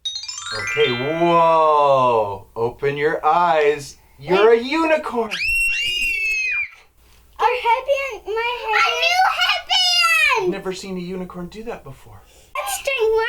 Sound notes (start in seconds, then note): 0.0 magical sparkle sound; 5.2 screams of joy